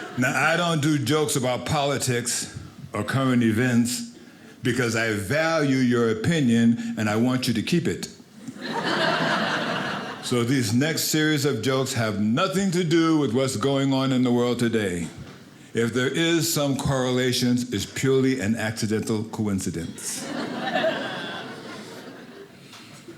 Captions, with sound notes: Now, I don't do jokes about politics or current events because I value your opinion and I want you to keep it, (audience laughing) so these next series of jokes have nothing to do with what's going on in the world today. If there is some correlation, it's purely an accidental coincidence. (audience laughing)